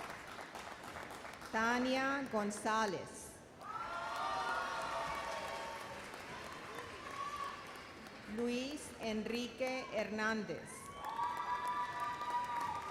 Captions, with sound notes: Tania Gonzalez. (audience applauds) Luis Enrique Hernandez. (audience cheers and applauds)